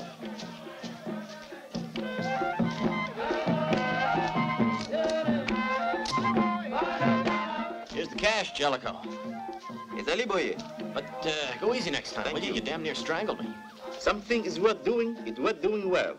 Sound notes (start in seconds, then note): 9.8 tonga spoken audio